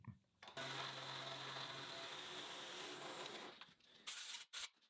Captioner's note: machine whirring